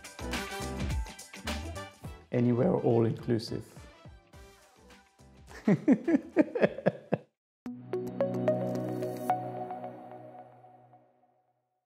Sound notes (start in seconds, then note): 0.0 upbeat music continues; 5.5 laughs